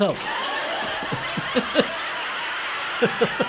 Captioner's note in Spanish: Riéndose